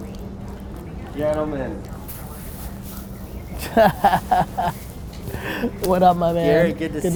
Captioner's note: Gary laughs